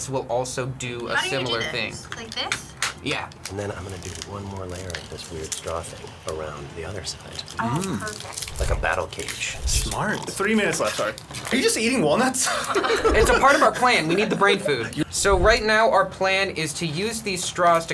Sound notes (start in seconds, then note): 12.4 laughing